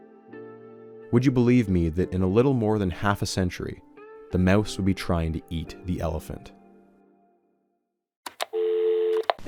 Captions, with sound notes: Would you believe me that in a little more than half a century, the mouse would be trying to eat the elephant? [REMOTE CLICKS] [DIAL TONE]